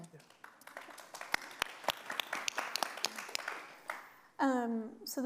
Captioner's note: audience applauding